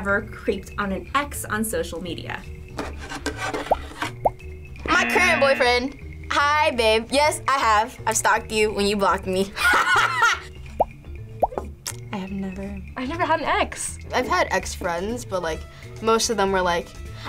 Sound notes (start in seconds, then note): 9.5 laughs